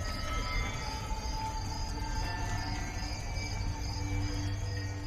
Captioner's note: birds chirping; dramatic music